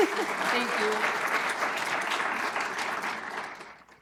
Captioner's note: applause